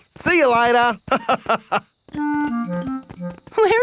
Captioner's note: laughs